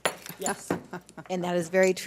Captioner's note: laughter